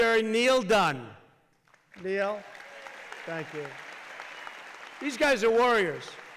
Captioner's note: applause